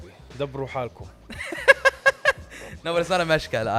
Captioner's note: laughs